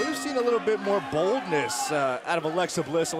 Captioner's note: bell ringing